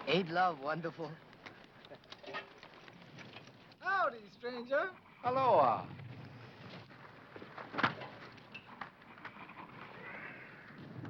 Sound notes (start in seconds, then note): none